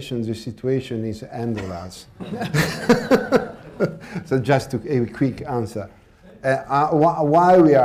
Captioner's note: laughter